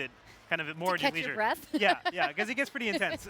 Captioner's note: laughing